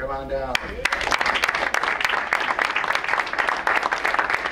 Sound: crowd applauds

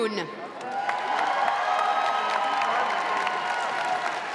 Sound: crowd cheering

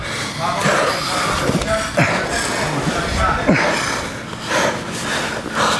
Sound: breathing heavily; spectators yelling simultaneously

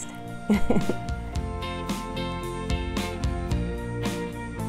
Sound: laughter

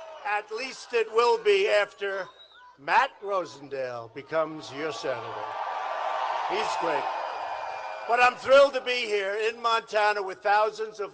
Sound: applause

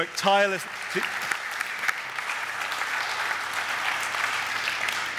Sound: audience applaud

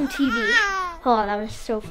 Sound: baby babbles

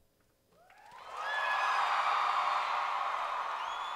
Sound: cheering; applause

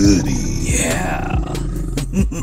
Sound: evil laugh

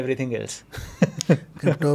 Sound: laughing

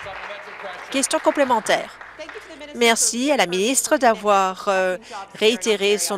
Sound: applause

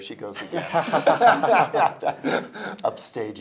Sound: all laughing

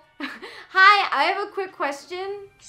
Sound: laughing

